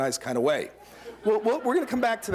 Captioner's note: laughter